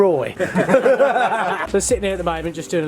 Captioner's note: all laughing